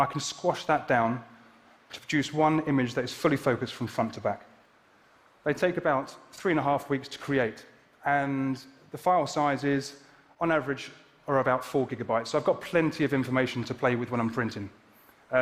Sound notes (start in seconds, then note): none